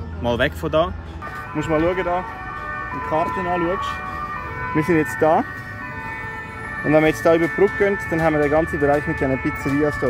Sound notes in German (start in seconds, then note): 1.2 Sirenengeräusche